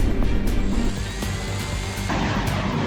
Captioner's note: reaction wheels whirring